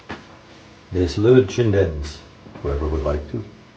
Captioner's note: speaks in foreign language